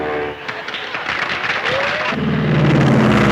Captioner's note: audience applauds; airplanes buzzing